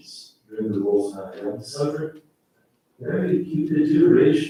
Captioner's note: faintly speaking